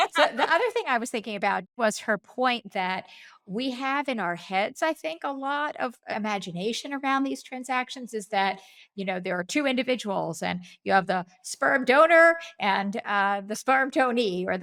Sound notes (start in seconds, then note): 0.0 laughing